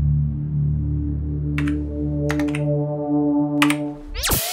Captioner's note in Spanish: click,click